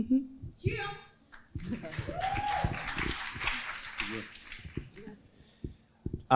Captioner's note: crowd applauding